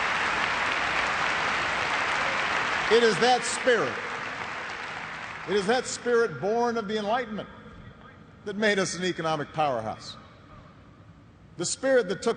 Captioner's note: cheers and applause